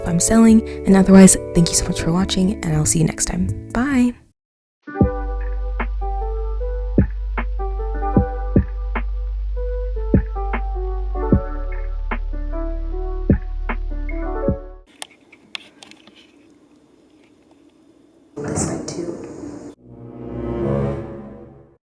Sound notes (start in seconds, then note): 4.6 outro music plays; 14.9 camera moving sound; 20.0 annoyed sound effect